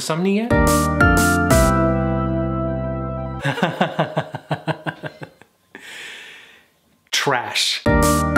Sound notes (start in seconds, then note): 0.1 upbeat music plays; 3.4 laughs